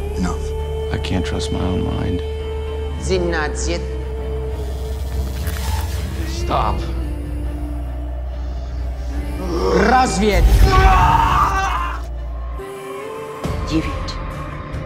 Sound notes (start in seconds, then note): 10.5 screams